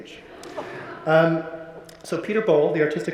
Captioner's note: audience laughing